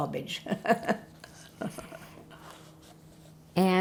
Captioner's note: laughing